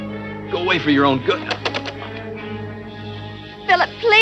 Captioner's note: knocking on door